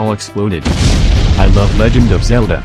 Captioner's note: this joke was better the first time EXPLOSION